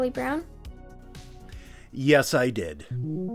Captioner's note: chuckling